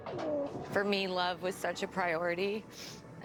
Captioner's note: sniffles